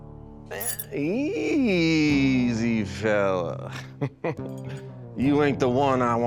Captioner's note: chuckling